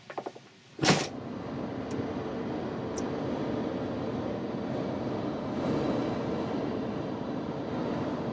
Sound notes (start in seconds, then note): 0.8 door slams shuts; 2.7 car engine softly roars